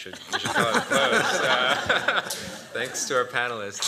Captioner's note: laughter